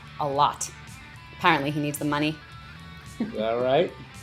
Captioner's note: laughs